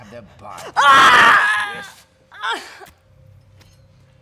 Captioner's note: screams in pain